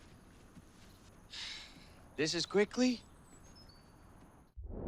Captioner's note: sighs